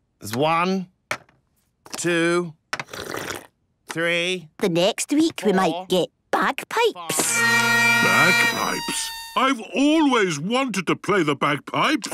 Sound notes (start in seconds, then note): 2.8 slurping; 7.1 dissonant music